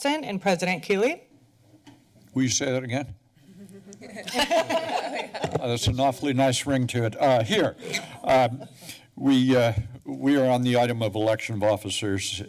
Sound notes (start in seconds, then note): 3.5 laughter